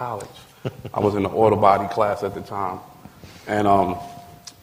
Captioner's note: laughter